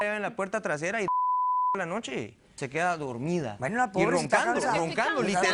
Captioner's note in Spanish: Bip